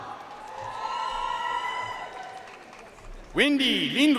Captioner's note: audience cheering and applauding